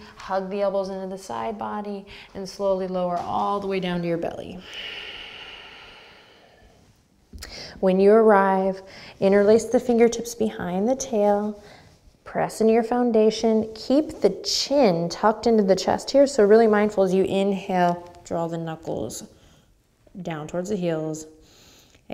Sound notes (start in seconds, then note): 4.6 deep breath